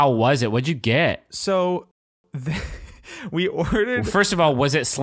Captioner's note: chuckles